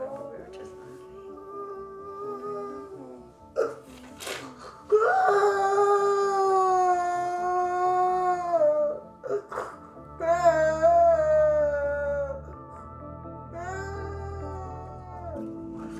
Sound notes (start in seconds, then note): 4.7 sobbing; 13.7 soft instrumental music